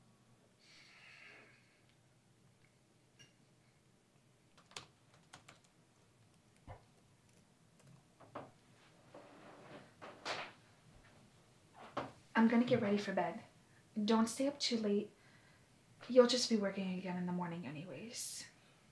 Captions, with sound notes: [typing on keyboard] [floor creaking] I'm gonna get ready for bed. Don't stay up too late. You'll just be working again in the morning anyways.